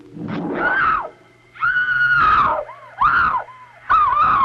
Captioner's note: Kriska screaming